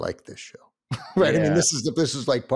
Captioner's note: chuckles